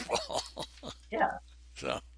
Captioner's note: chuckles